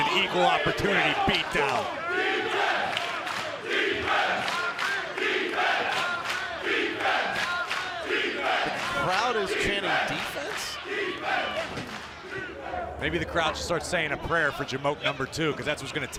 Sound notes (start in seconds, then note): 3.9 fans chanting